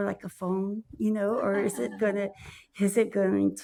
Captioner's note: audience laughs